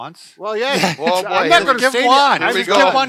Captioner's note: overlapping chatter